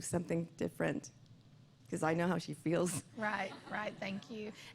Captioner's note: laughter